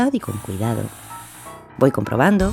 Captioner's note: mini-drill sound